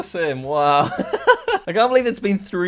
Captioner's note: laughs